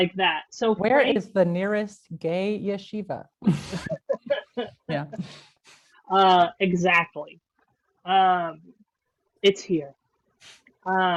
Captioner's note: laugh